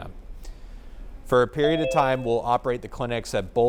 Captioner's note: phone notification dings